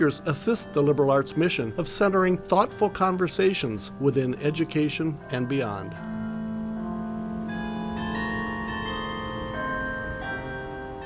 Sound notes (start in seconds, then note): 6.4 bells ringing